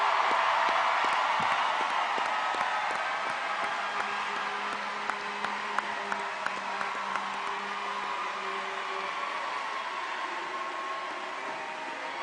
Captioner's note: applause